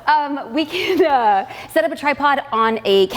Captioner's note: laughs